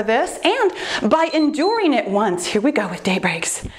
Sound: timer beeps

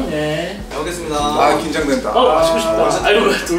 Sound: nervous

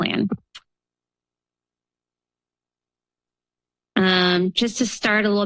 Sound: pause

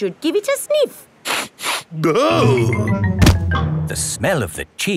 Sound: sniffs and groans

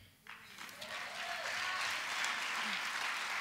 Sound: applause

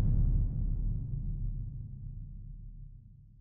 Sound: boom

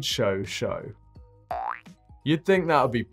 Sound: spring popping

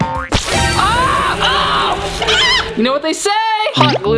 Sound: screaming

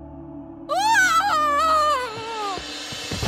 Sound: loud scream

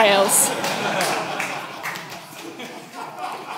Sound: laughing

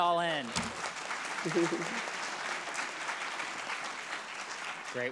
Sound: audience clapping; laughing

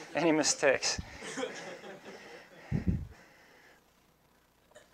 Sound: audience laughing

